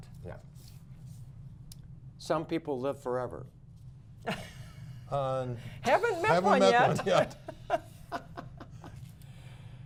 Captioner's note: laughter